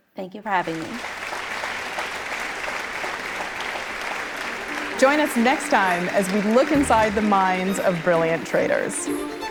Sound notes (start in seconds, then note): 0.6 audience applauding